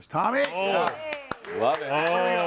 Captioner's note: claps